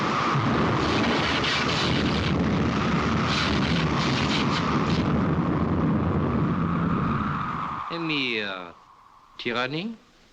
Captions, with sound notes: (THUNDER RUMBLING) Only tyranny.